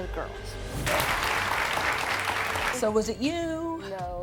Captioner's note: audience applauds